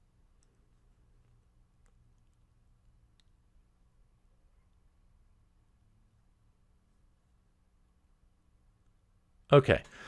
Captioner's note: pause